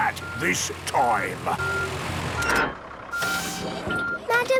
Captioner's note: beeping, hydraulic noises